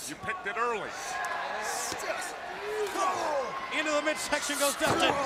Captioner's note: crowd chatter